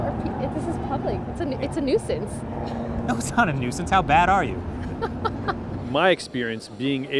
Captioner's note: laughs